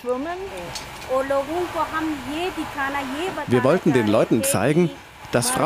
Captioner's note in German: englisch